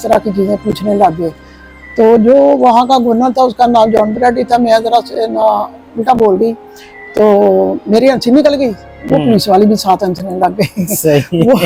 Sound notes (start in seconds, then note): 7.1 laughter